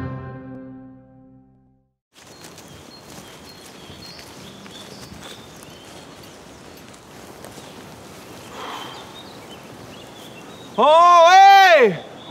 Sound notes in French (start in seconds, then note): 0.0 Musique générique; 2.3 Oiseaux qui gazouillent